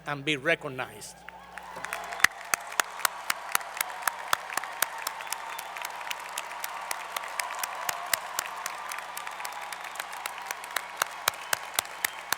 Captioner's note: applause